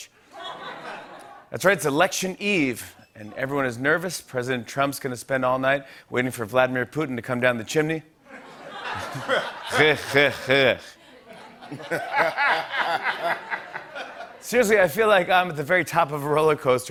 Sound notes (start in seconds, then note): 0.3 laughter; 8.2 laughter; 9.5 Russian accent; 11.0 laughter; 14.1 normal voice